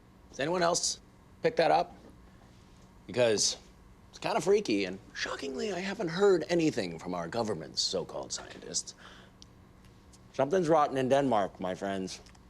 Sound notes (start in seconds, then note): none